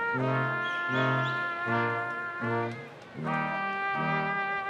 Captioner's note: person whistling